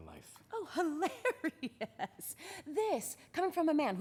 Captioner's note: laughs